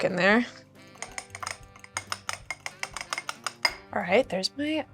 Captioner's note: eggs beating